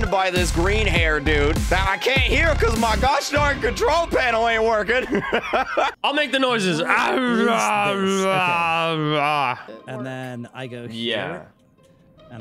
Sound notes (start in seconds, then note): 5.0 laughs; 6.8 grunts